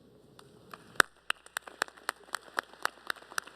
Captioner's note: applause